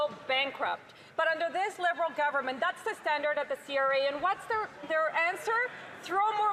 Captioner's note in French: voix de l'interprète